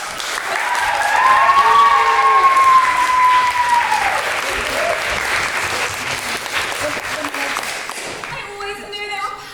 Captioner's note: cheering and applause